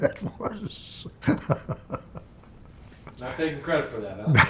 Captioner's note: laughs